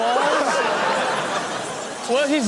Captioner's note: audience laughs